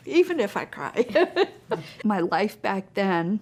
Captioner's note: laughter